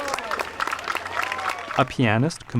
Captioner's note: applause